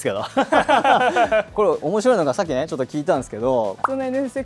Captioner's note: laughs